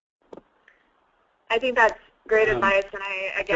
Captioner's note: voiceover